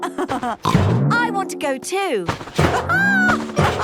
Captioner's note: laughs